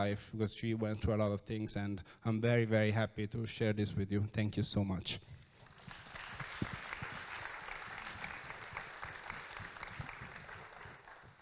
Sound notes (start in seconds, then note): 5.5 audience claps